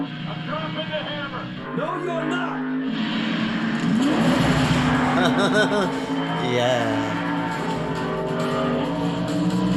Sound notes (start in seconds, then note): 5.2 chuckles